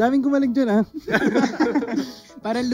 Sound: laughs

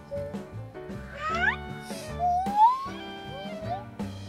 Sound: baby sound

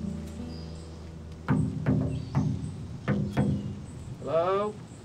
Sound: knocking

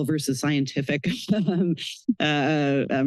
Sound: chuckles

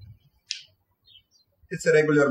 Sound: birds chirping

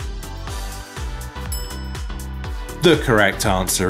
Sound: bell clinking

